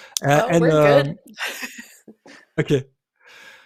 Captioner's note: chuckles